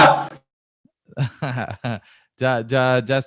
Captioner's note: laughs